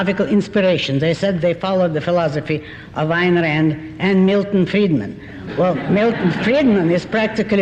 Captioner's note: laughter